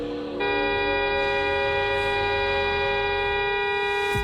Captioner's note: long single car horn